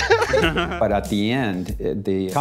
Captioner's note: laughing